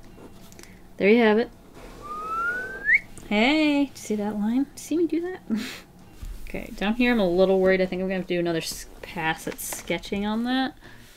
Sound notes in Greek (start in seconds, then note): 2.0 Σφύριγμα